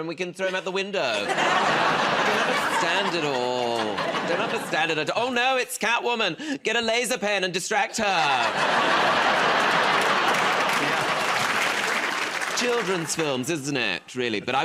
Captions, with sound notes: and we can throw him out the window. I just don't understand it all. Don't understand it -- Oh, no, it's Catwoman. Get a laser pen and distract her. [ Laughter ] Children's films, isn't it, really?